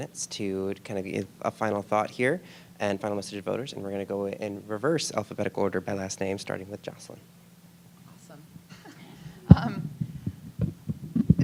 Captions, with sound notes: to kinda give a final thought here, and final message to voters. And we're going to go in reverse alphabetical order by last name, starting with Joslin. >> Awesome. (chuckling)